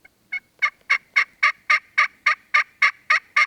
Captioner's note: turkey call